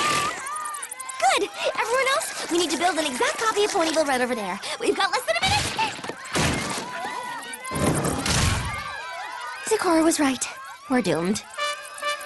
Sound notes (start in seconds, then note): 7.8 thud